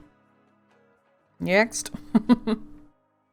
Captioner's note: laughs